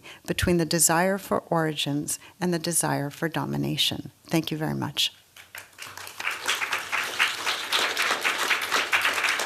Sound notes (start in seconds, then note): 5.4 applause